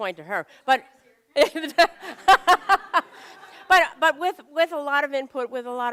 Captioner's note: laughter